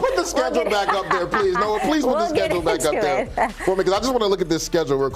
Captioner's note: laughter